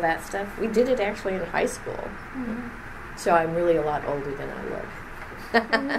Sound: laughs

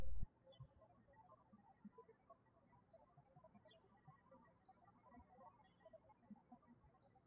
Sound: birds chirping

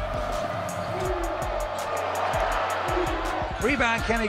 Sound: crowd roaring

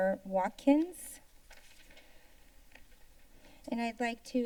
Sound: paper rustling sound

